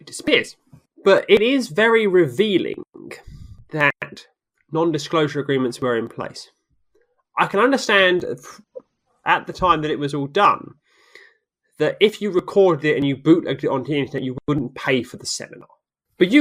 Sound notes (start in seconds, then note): none